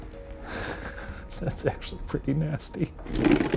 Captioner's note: laughs